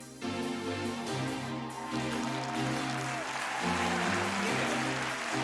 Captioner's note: upbeat music; cheering